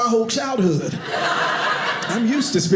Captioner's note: audience laughing